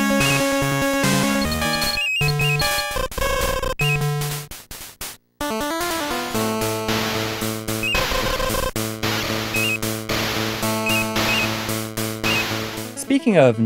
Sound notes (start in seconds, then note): 1.8 game audio